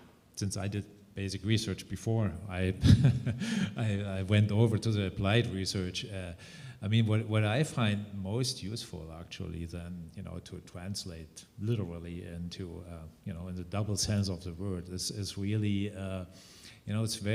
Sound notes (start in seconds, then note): 2.8 chuckles